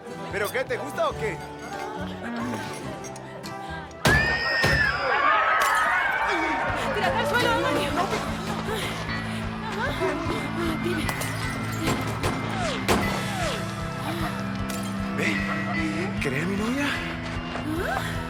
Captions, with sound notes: Do you like it? - [gunshots] - [screams] Get down on the floor! - [heavy breathing] - [glasses breaking] Hey! Do you want to be my girlfriend?